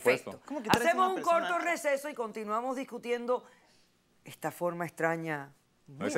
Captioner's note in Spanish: Hablan al unísono